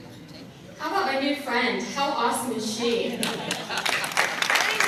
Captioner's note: applause